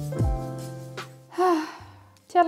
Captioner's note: sighs